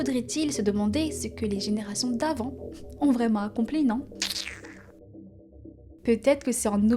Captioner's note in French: tchip